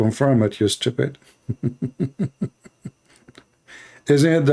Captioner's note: Ketawa